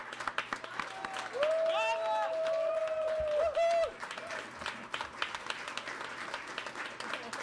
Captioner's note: audience applauds; audience cheers